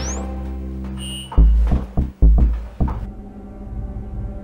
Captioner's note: sound of keys pressed